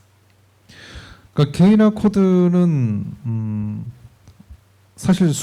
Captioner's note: speaking korean